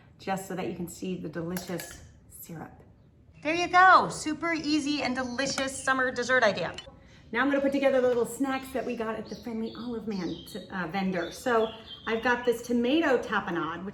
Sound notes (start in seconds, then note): none